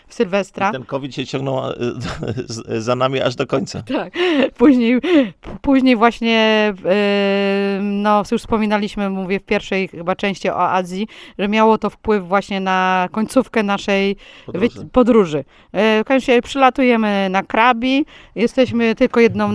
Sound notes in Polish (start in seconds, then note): 4.8 śmiech